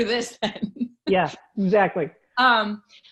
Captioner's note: laughs